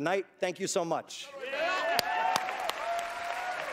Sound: cheering

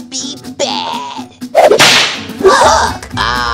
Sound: whip cracks

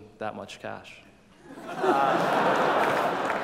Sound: laughter

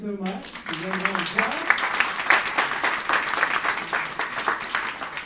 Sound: clapping drowns out speaker

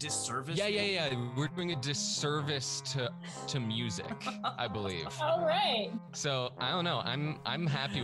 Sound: laughter

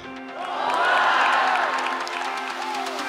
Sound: crowd

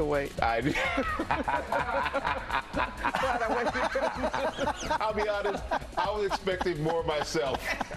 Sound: laughter

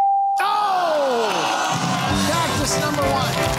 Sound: groaning; theme music playing

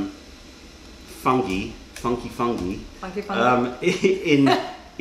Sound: laughter

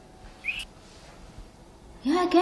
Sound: whistling

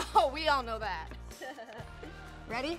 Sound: laughing

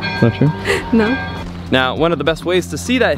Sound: laughs

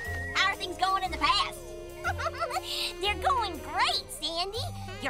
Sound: laughs

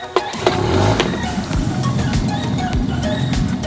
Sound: engine revving

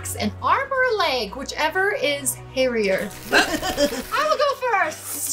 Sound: chuckling

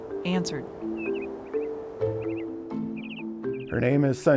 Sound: birds chirping

